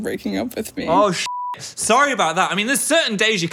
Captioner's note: beep